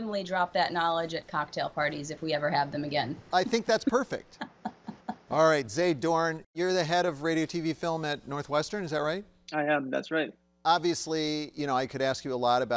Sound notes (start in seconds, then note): 3.4 laughing